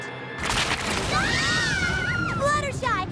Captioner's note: all scream